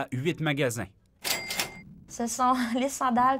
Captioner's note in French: clochette de caisse